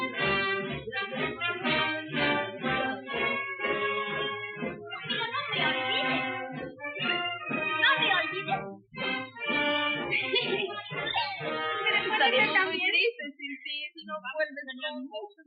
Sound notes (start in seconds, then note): 4.9 speaking Spanish; 9.5 laughing; 12.1 all speaking Spanish